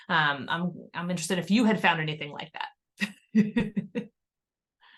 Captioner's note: laughter